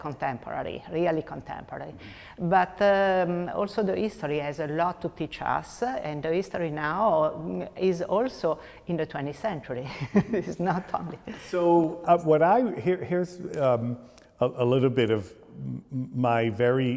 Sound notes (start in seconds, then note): 9.9 chuckles